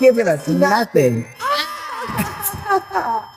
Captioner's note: screams